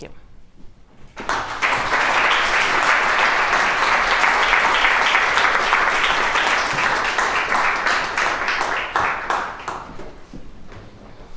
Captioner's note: applause